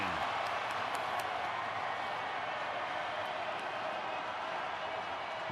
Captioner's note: cheering